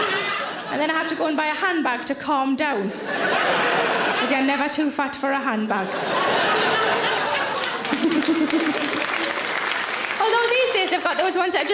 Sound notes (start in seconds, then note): 5.6 audience laughing; 6.8 audience applauding